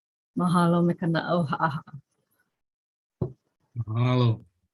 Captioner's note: speaks in Hawaiian